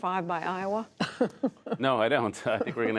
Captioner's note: laughter